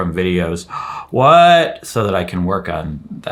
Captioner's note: gasps